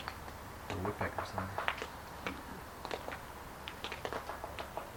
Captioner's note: woodpecker sounds